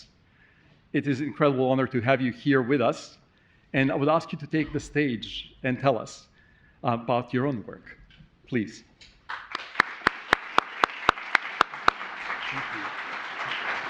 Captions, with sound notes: It is incredible honor to have you here with us, and I would ask you to take the stage and tell us about your own work. Please. (audience clapping) Thank you.